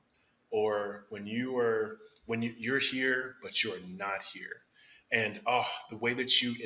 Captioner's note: sighs